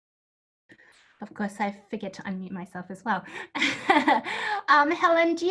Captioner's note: laughs